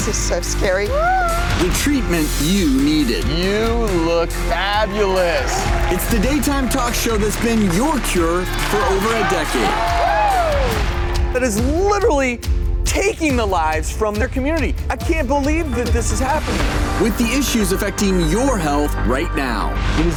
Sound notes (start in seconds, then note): 9.5 audience Cheering